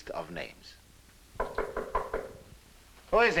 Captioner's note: knocking on door